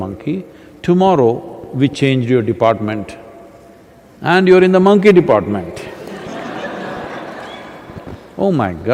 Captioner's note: laughter